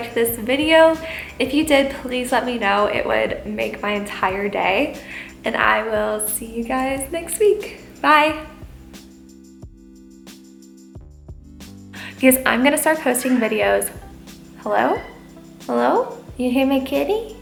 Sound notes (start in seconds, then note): 14.8 meow